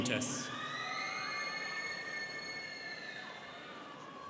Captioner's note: students cheering